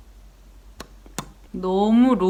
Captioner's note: pop pop